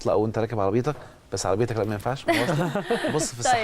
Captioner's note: laughs!